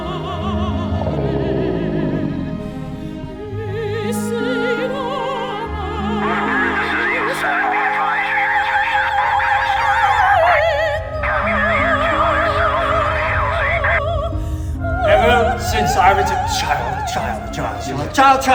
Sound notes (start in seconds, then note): 0.6 ominous growling; 6.2 opera music; 6.2 singing in foreign language; 8.0 radio chattering